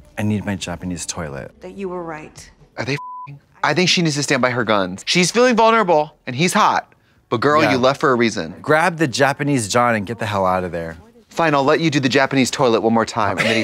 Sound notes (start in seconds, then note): 2.9 beep